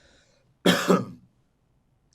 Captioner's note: coughs